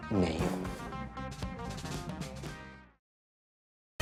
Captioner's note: out of breath